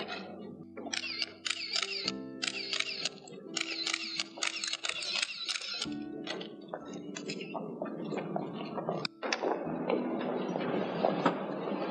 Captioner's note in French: camera clicking